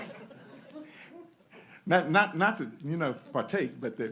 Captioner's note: laughter